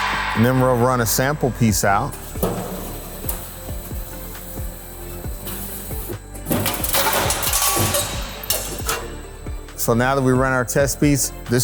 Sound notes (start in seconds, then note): 3.1 ambient music; 3.1 machinery whirring